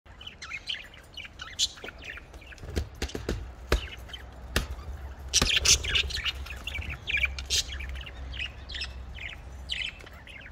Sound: birds chirping

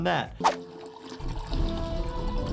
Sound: graphic whooshes; liquid bubbling; dramatic music

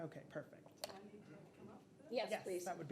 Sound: speaker speaks faintly

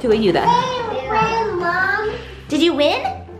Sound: speaking in foreign language

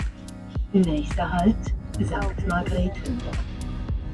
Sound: train announcement, in German

